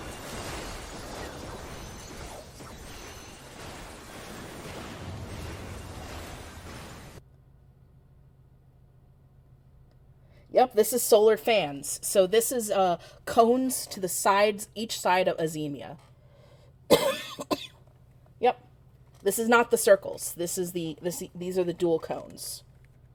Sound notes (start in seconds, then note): 0.0 clamouring of battle continues; 16.9 coughing